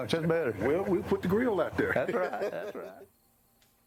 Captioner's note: laughs